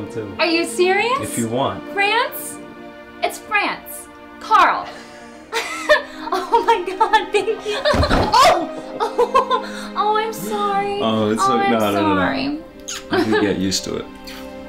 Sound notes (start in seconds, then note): 5.4 emma joyfully laughs; 7.9 bang